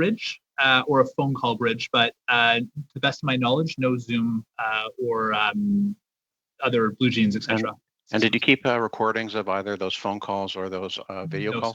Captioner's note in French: voix de l'interprète